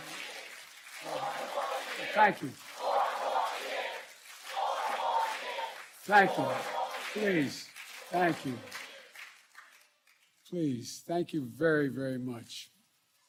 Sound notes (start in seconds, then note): 6.6 cheering